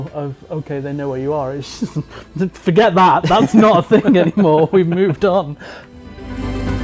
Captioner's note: laughs